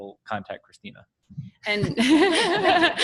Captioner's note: laughter